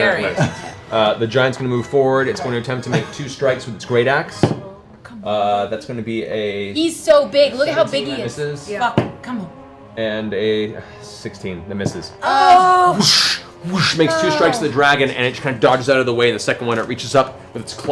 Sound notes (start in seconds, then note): 11.3 whooshing